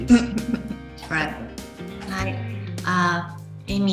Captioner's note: laughs